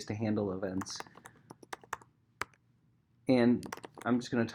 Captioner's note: keyboard clacking